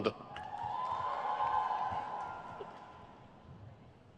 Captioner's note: crowd cheers